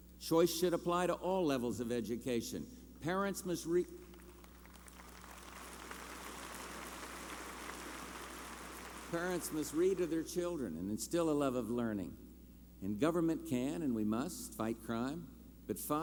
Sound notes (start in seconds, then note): 4.0 applause